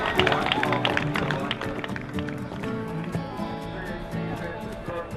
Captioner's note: cheering and applause